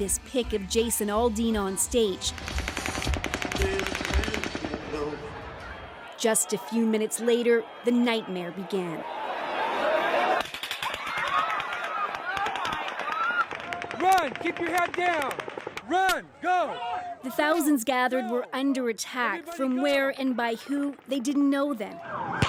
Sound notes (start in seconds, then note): 10.4 gunshots; 10.8 screaming; 12.2 gunshots